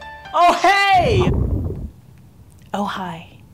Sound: hookah bubbling

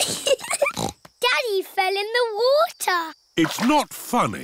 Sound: giggling

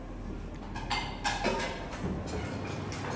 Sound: utensils clanking

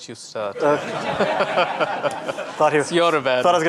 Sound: audience laughing

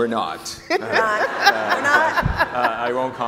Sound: laughing

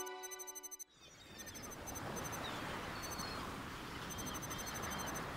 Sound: electronic beeping; birds calling; waves crashing; electronic beeping

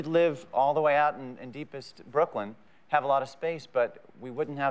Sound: none

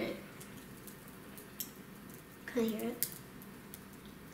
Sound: bacon sizzling

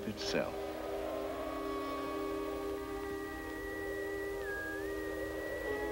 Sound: wind howling; whistling

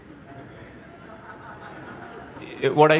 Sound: laughter

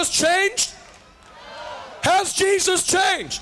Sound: crowd shouting no

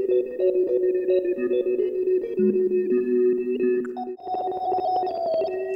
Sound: bleep bloop

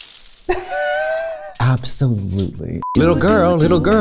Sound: laughs

